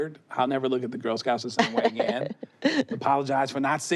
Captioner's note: laughs